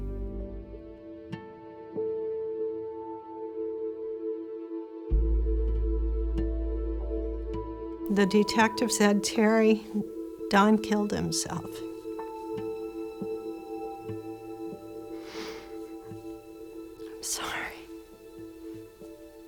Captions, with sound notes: [gloomy music playing] The detectives said, "Terri, Don killed himself." [sniffles] I'm sorry.